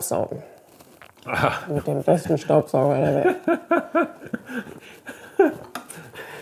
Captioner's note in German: lacht